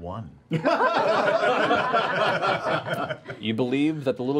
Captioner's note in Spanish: risas